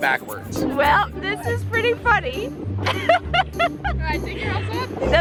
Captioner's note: laughs